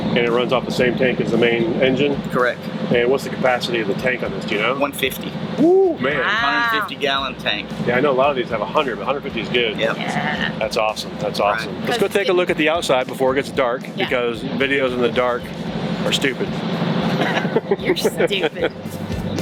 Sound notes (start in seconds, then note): 17.1 laughs